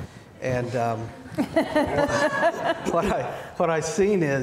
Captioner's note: laughs